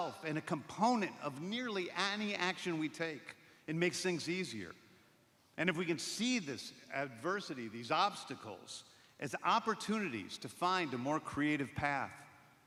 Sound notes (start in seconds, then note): none